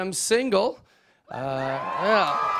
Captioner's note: cheers